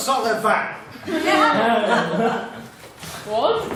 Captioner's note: sounds of excitement; sounds of confusion